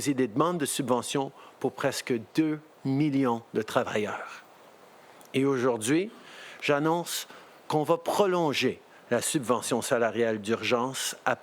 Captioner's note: speaking French